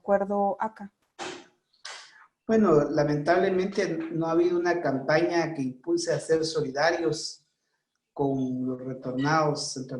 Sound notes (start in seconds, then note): 2.7 speaking foreign language